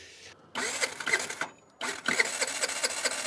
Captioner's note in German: Motorstottern